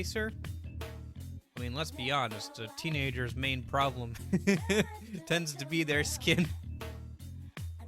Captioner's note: heh heh